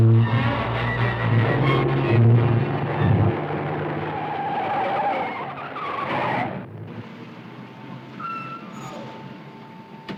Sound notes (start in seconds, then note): 3.9 tires screeching